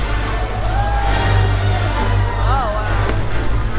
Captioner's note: crowd cheers